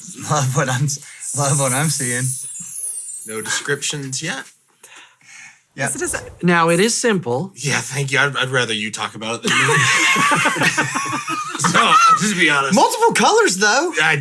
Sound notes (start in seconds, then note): 9.4 all laughing